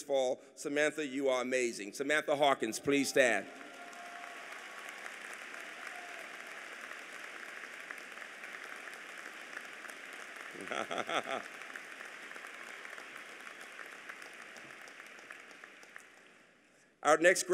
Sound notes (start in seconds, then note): 2.8 applause